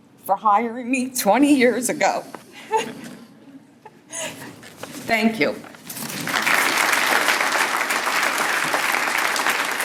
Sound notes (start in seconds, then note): 6.1 applause